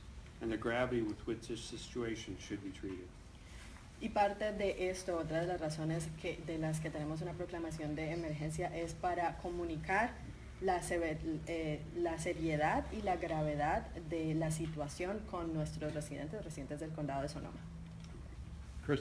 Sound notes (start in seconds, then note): 4.0 speaking in Spanish